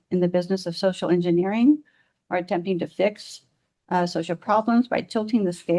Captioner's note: none